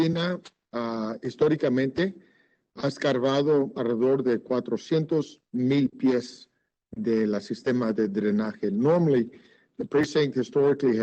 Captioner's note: speaking Spanish